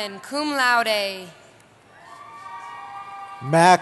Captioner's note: cheering